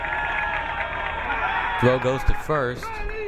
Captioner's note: crowd cheering